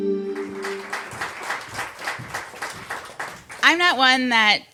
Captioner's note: applause